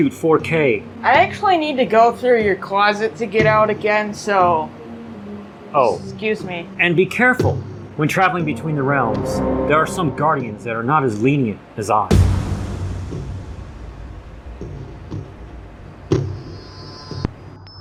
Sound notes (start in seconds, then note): 12.1 dramatic impact sound indicating suspensfull forshadowing